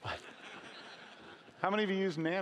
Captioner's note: laughing